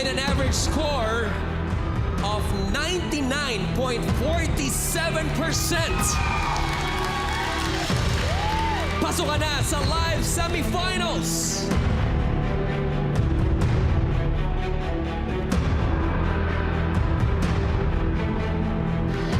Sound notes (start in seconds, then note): 5.1 cheering, applause; 12.2 suspenseful music continues